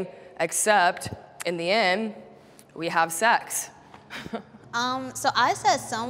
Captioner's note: chuckles